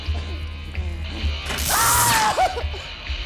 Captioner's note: screaming; zapping